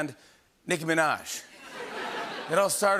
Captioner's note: laughter